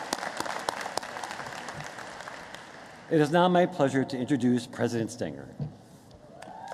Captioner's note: applause